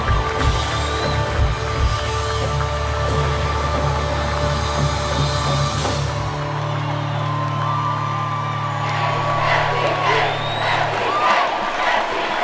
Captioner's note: cheering